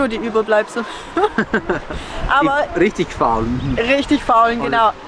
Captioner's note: laughs